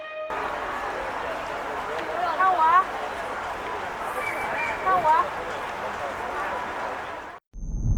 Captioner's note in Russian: шум улицы